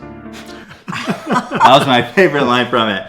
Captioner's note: laughing